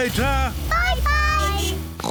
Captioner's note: horn beeps; oinks